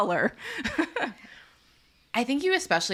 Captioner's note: laughs